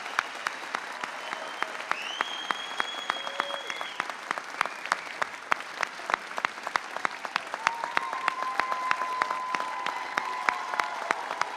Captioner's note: applause